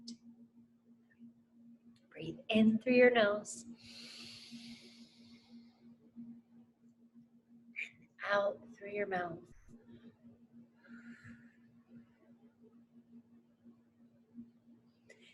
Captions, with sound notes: Breathe in through your nose. (lightly inhales) And out through your mouth. (lightly exhales)